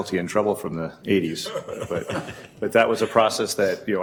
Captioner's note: laughing